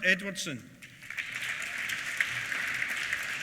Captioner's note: applause